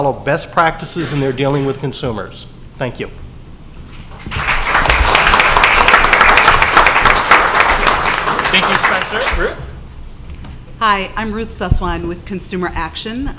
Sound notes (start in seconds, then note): 4.1 applause